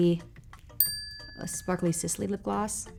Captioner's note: bell pings